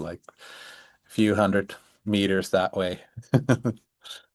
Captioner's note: laughs